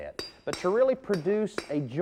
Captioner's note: mason hammering